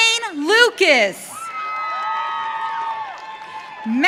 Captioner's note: audience cheering